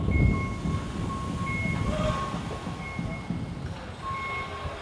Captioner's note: machines beeping